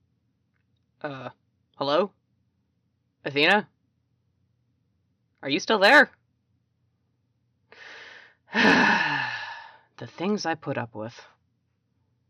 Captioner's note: sighs